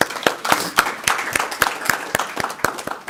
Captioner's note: applause